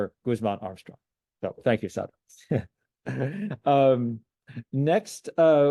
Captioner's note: chuckles